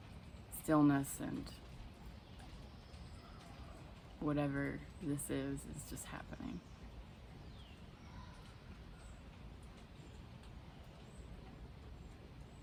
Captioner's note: bird sounding